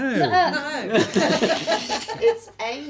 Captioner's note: laughing